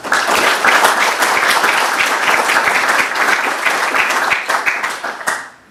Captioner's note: applause